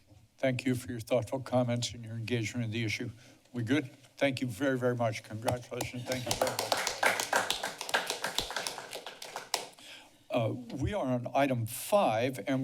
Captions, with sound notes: - Thank you for your thoughtful comments and your engagement in the issue. We're good? Thank you very, very much. Congratulations, thank you. [applause] We are on item five.